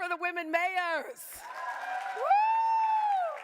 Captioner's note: audience cheering